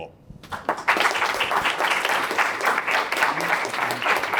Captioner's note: applause